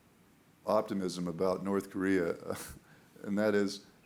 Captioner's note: chuckling